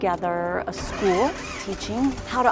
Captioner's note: plane engine starting